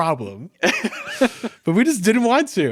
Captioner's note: laughing